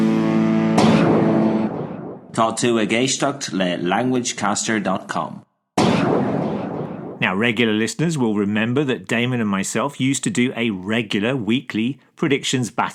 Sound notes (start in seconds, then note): 4.4 in Irish